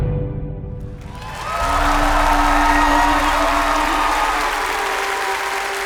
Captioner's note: applause